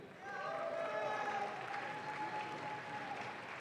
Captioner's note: audience claps